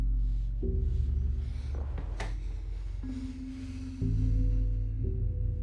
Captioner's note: Joe breathes shakily